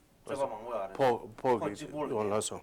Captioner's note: non-english speech